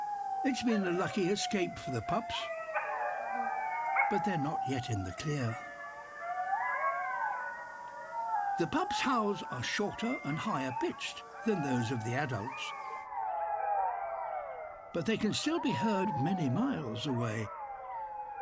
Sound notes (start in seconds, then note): 0.0 howls; 2.7 howling